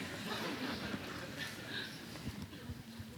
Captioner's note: laughter